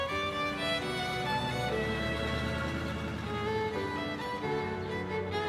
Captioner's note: engine rumbles